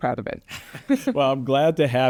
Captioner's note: laughing